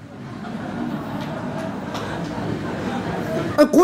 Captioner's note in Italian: Risata